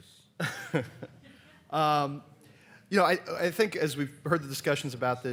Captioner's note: laughs